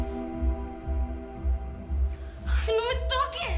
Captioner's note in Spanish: Sollozos